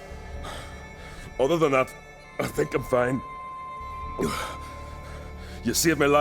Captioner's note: panting